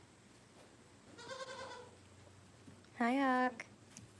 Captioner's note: goat bleats